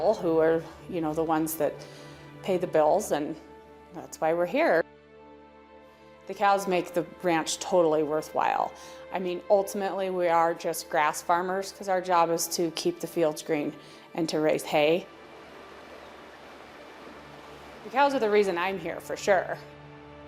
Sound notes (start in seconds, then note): 14.2 wind blowing